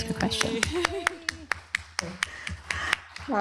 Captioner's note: applause